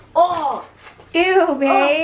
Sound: groaning

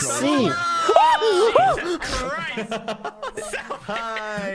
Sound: screams; laughing

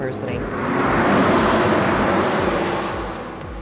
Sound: truck passing at high speed

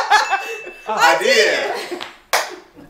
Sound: bell dings; all laughing; claps

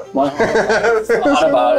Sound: everybody laughing

